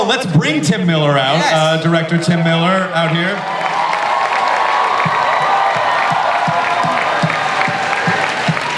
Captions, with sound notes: let's bring Tim Miller out. - Yes! - Director, Tim Miller, out here. (audience cheers)